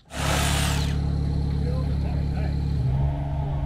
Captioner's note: engine humming